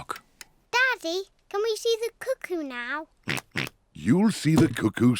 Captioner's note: oinks